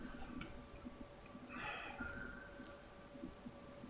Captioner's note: sighs